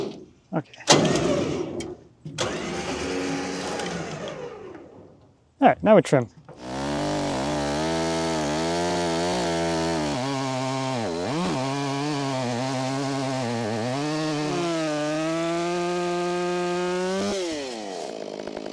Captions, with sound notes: Okay. All right, now we trim. (machinery humming)